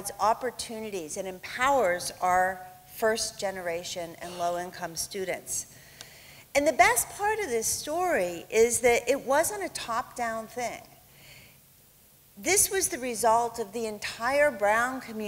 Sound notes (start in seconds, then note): none